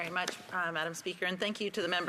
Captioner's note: speaking French